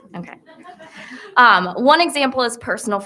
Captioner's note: attendees laughing